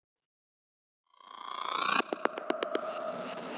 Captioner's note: sound effect